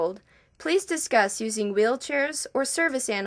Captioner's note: none